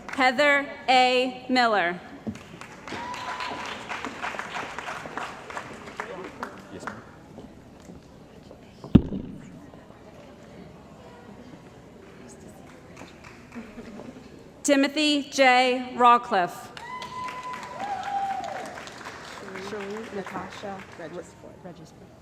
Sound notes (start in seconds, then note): 2.4 cheering & Applause; 16.7 cheering & Applause